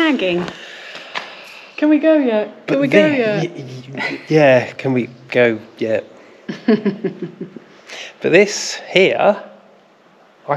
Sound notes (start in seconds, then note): 6.5 laughter